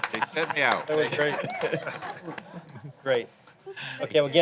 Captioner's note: laughter